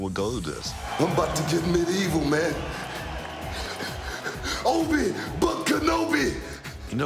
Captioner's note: laugh